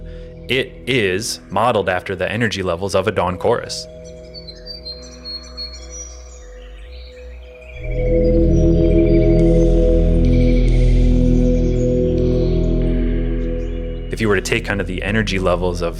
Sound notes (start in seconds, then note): 4.5 birds singing; 8.0 tranquil music